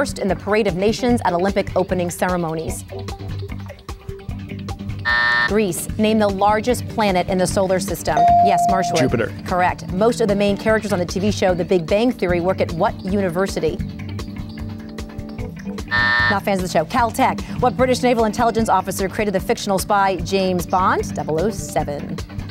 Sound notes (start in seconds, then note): 5.4 buzz; 8.2 ding; 15.6 buzz